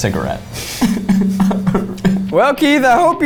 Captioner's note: laughs